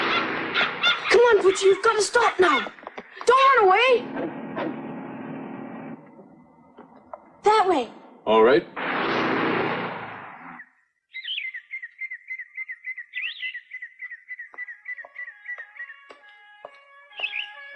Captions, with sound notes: Come on Poochie, you've got to stop now! Don't run away! That way! Alright. [sirens]